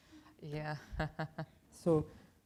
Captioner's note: chuckles